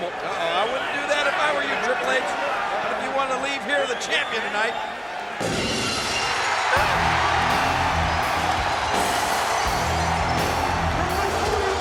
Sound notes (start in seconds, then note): 5.8 glass shattering; 6.6 upbeat rock music; 6.8 crowd cheering